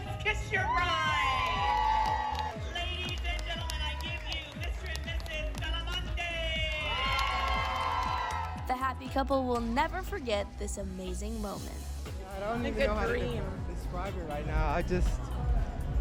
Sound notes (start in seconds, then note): 7.1 crowd cheering